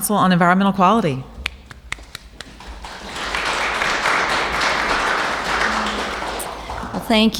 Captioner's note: applauses